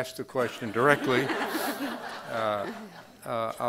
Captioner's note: crowd laughing